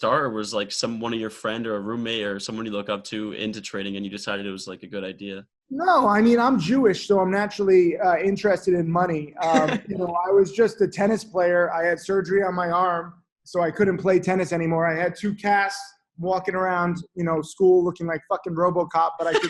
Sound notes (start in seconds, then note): 9.4 laughter